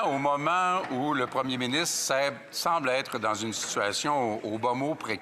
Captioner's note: speaking French